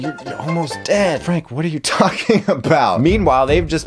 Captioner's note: laughs